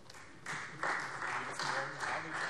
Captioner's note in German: Beifall Freie Demokraten